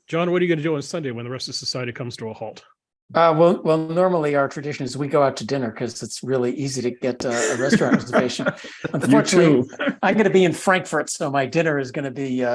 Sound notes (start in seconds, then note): 7.2 laugh